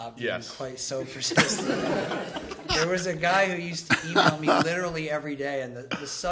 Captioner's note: laughter